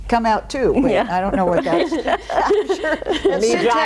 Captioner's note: all laughing